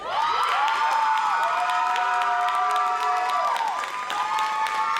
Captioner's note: audience cheers and applauds